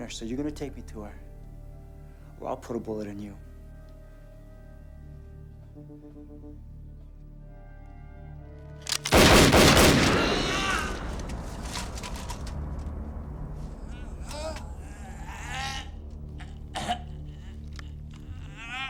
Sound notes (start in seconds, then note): 8.8 gun clicks; 8.9 gunshots banging; 11.0 Becker groaning; 13.9 somber music